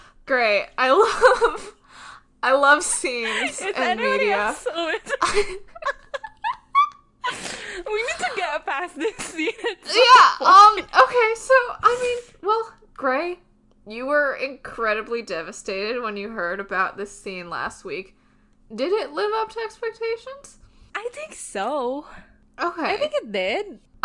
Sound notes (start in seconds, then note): 3.0 laughing; 6.4 both laughing